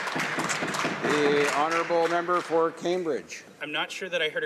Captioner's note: some Applause